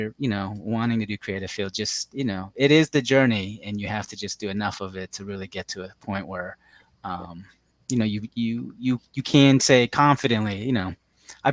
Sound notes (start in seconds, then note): none